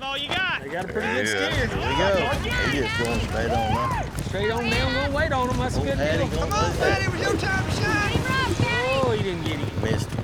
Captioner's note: all shouting